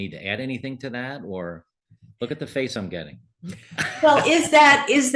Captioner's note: laugh